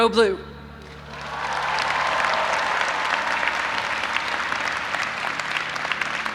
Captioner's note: audience applauding and cheering